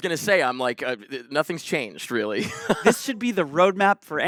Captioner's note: chuckles